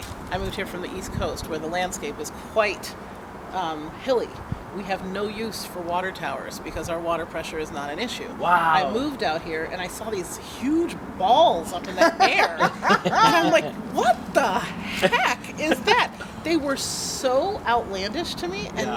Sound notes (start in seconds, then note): 11.8 laughter